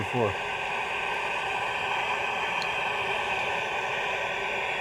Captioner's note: static buzzing